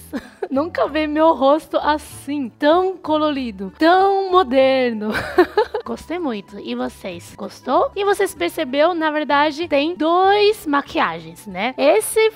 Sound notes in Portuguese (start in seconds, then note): 5.1 risos